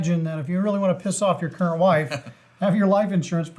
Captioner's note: laughs